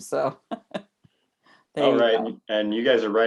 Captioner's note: laughs